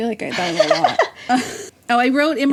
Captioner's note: both laugh